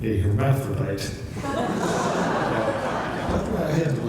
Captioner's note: laughter